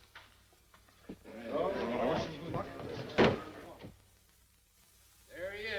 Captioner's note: all murmuring